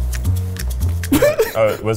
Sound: laughing

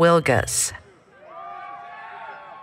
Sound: applause, Cheering

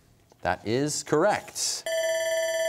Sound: bell ringing

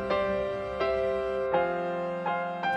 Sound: none

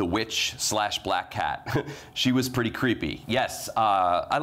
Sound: chuckles

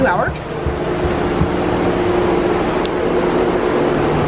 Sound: whirring

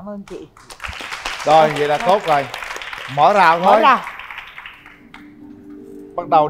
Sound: clap

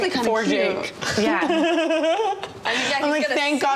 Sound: Tana laughing

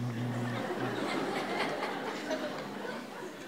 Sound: audience laughing

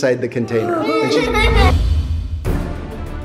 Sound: kids laughing; tense music

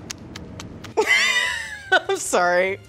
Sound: laughing

